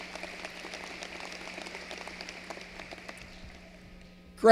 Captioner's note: applause